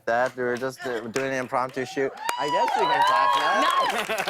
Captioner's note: cheers and applause